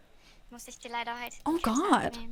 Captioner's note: speaking in German